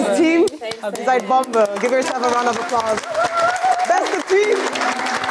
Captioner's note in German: Applaus